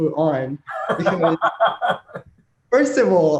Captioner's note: laughing